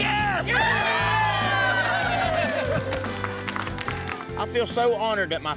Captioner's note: everyone cheering